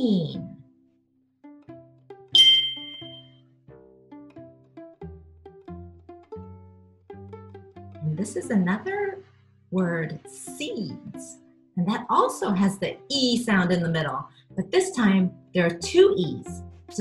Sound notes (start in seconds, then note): 2.3 ringing; 3.7 calming music